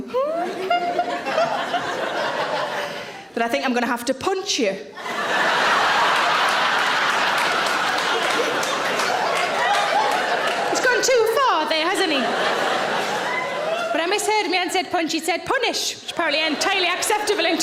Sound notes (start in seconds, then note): 0.1 giggling; 0.4 audience laughing; 5.1 audience laughing; 12.6 audience laughing